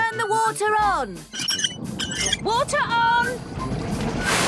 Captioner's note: wheel squeaking